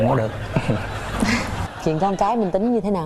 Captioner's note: laughing